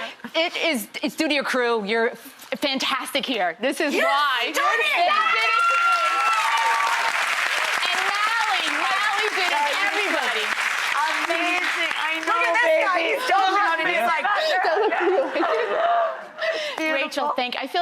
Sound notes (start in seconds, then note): 6.4 audience cheers and applauds; 14.0 sobbing